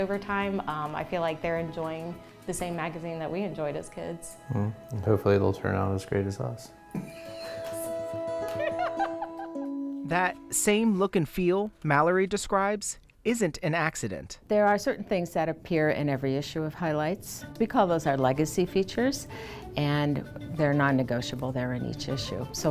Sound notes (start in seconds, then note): 8.4 laughter